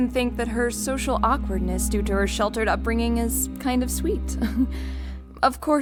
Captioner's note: chuckle